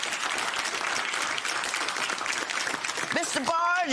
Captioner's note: applause